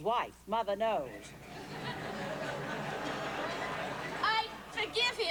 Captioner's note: laughter